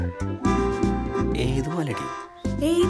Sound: confused

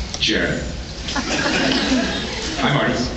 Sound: scattered laughs

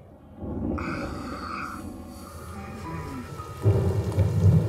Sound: Yogi groaning; rain falling; somber music

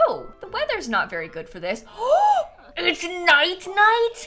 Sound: gasps

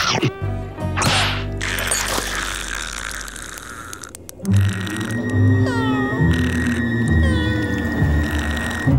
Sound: snoring

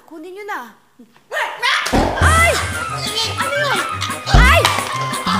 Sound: gasps

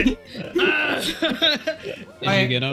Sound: starts laughing

